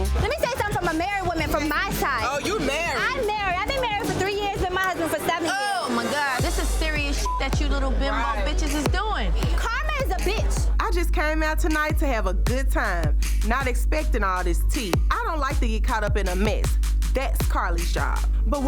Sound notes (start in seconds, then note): 7.1 beep